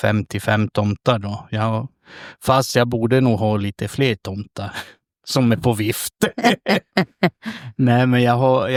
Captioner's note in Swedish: skratt